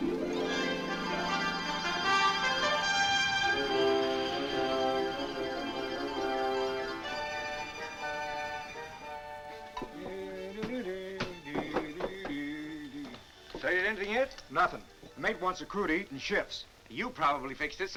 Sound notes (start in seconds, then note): 0.2 adventurous music; 8.1 man humming